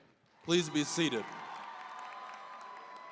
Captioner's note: applause, cheering